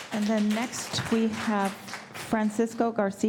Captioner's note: applause